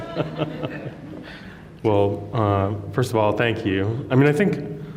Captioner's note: laughs